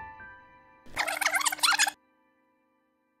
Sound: tape rewinding

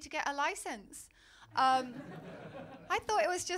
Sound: laughter

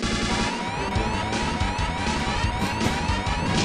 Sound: alarms

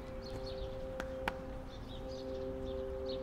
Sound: clapping

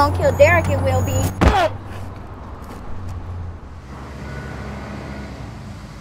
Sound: grunts

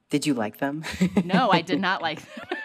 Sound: laughter

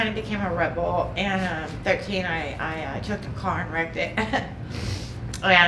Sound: chuckling

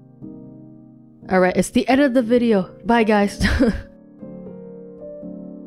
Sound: chuckles

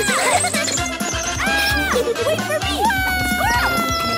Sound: screaming

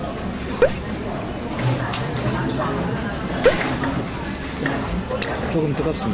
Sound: likes tacos / Slurps

